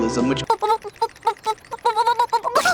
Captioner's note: nervous shaking Komi-san sounds